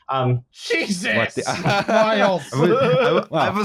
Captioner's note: laughter